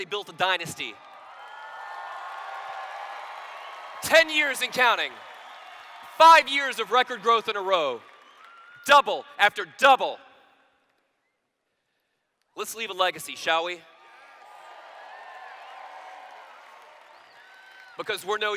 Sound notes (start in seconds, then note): 0.5 cheers; 14.0 cheers